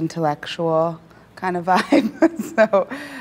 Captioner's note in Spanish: risas